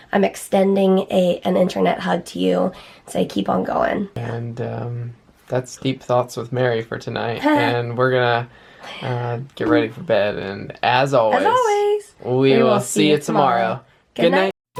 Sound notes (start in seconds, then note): 7.4 chuckles